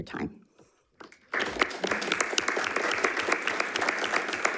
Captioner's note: crowd clapping